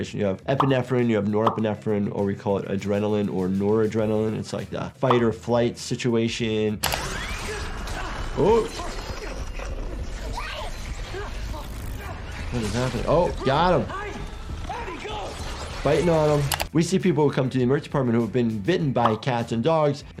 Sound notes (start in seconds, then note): 7.2 character shouting, grunting; 11.5 panicked breathing